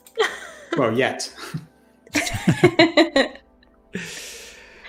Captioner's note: laughter